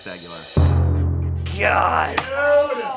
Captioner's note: thud booms